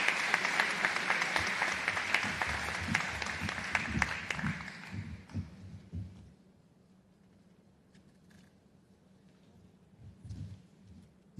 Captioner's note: applause